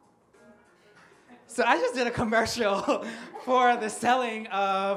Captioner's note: upbeat pop music; laughs